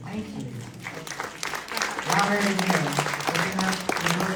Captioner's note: applause